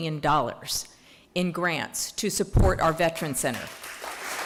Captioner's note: applause